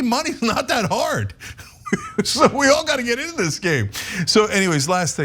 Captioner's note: laugh